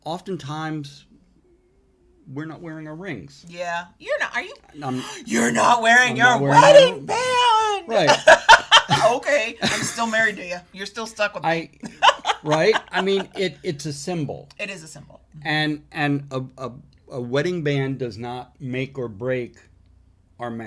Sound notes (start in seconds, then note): 7.9 both laughing; 11.8 laughing